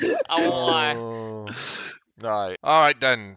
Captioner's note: laughs